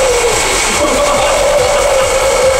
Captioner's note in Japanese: 笑い